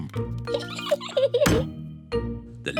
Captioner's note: giggles